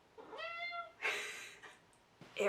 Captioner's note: cat meow